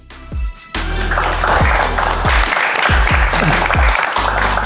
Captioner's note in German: Dynamische Musik; Applaus von hinter der Kamera